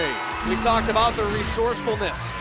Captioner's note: bell ringing